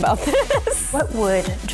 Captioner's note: laughs